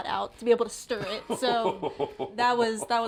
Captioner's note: laughs